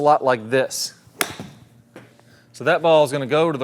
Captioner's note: club whacks